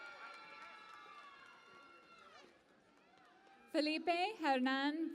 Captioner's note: cheering and Applause